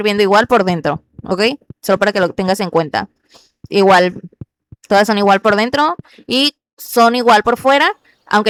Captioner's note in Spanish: resoplido